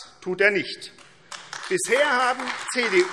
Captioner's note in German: Beifall AfD